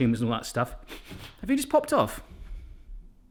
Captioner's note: sniffs